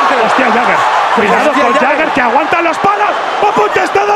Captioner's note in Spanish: Gritos